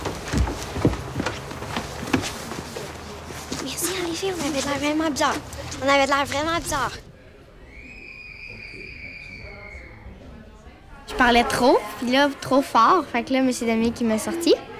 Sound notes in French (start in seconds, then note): 7.5 cris au loin